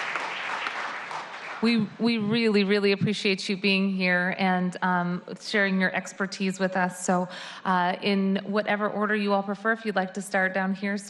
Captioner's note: applause